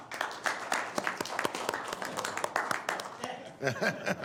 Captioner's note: applause